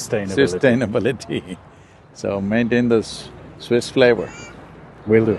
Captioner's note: laughs